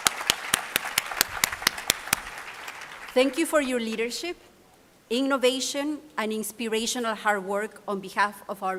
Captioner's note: applause